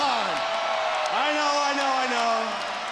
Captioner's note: crowd cheers